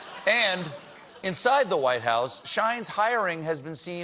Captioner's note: laughter